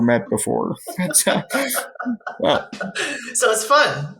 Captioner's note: laughs